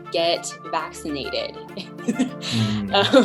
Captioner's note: laughter